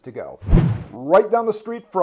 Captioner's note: air whooshing